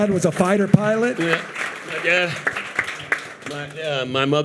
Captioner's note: audience applauding